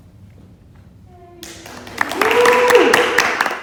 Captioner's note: applause